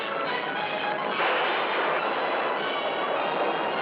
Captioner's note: thunderclap